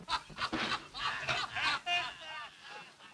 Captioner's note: raucous laughter